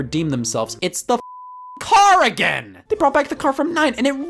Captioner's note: beep